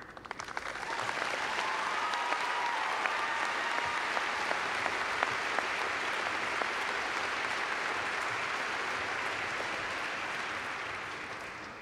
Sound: clapping

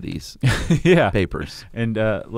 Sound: laughing

